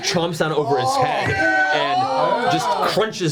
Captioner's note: all cheer